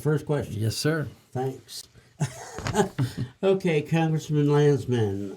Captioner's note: laughs